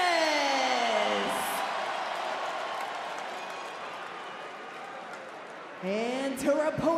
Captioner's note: crowd cheers